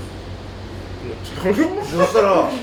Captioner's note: laughs